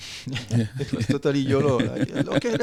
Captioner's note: laughing